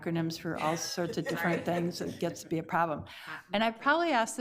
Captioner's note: committee members laugh